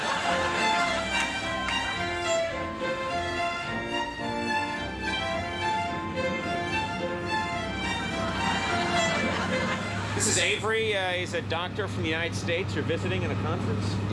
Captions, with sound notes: (instrumental orchestra music) (audience laughs) This is Avery. He's a doctor from the United States. You're visiting in a conference?